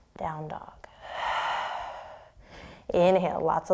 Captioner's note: exhaling